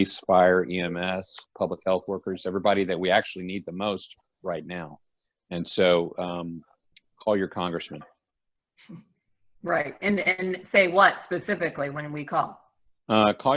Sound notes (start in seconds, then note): 8.9 chuckles